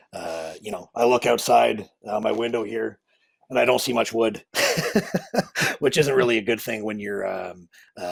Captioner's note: laughing